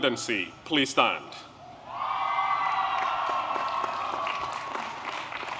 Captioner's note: applause